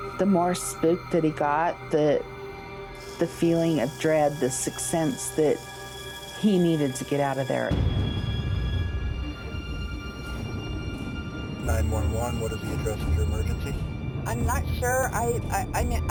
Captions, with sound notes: the more spooked that he got the feeling of dread, the sixth sense that he needed to get out of there. (thunder roaring)